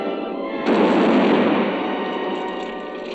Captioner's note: explosion